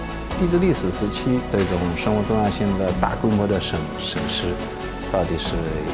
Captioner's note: speaking in foreign language